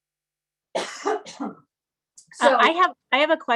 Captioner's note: coughing